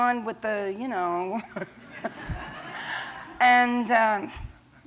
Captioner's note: laughter